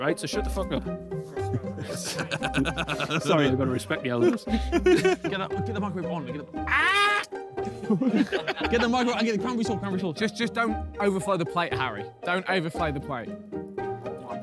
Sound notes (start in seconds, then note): 1.4 laughs; 7.6 laughing